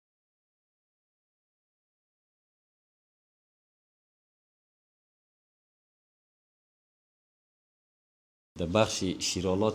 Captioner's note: no sounds